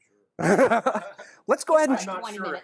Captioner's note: laughs